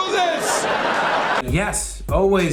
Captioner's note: laughs